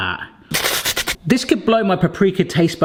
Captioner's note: mimics Hannibal Lecter hiss